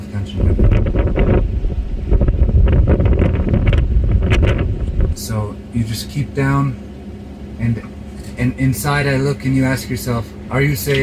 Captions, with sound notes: [wind noise] [material flapping] So you just keep down and and inside I look and you ask yourself: are you safe?